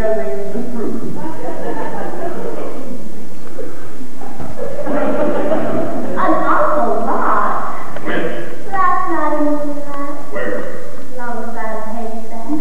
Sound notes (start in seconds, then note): 1.4 laughter